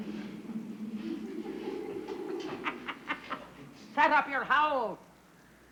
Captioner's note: ghostly laughing echoing